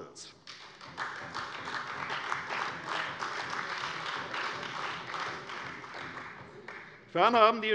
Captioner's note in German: Beifall bei der CDU